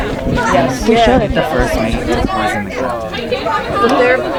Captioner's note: people chattering